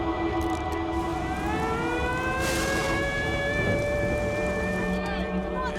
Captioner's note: storm siren rings